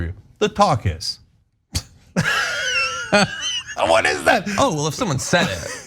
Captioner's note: laugh